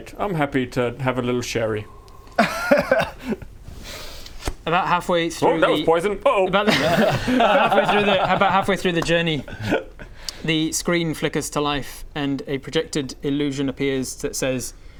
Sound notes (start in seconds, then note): 2.2 laughs; 6.7 celebratory giggles